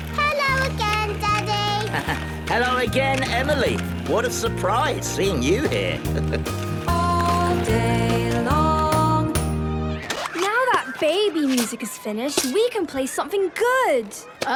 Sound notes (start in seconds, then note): 0.3 laughing; 5.7 chuckling